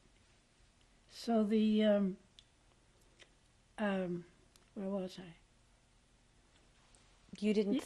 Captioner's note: pauses for 3 seconds